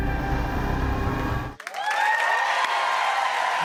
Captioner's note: cheers and applause